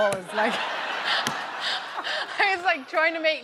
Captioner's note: laughter